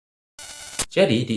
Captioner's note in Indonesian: suara interferensi